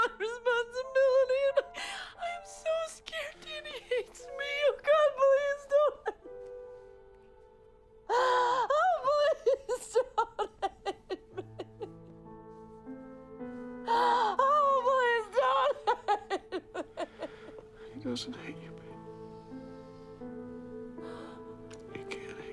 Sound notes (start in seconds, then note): 8.1 crying; 17.2 Bryn crying; 20.5 pensive music